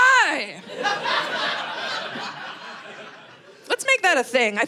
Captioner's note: audience laughing